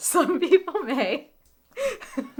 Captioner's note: laughs